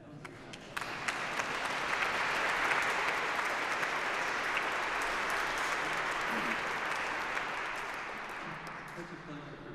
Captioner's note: applause